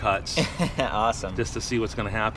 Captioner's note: laughs